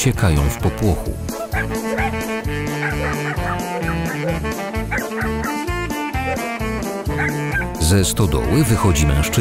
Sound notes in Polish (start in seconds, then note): 3.7 szczekanie